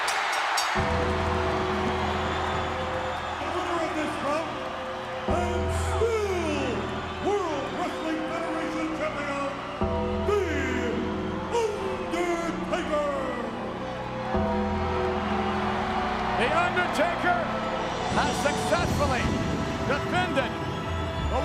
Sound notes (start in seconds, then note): 0.0 bell ringing; 0.1 church bell ringing; 15.0 crowd cheering